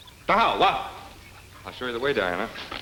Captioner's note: speaking in foreign language